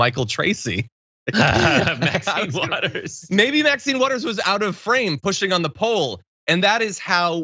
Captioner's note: laugh